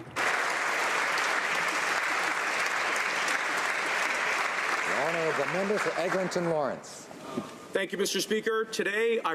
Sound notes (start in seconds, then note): 5.0 applause